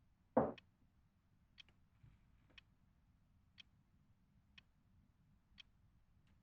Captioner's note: bottle thunks; glass clinking; glass taps; clock ticking continues